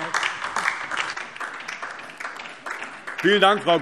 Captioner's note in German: Beifall DIE LINKE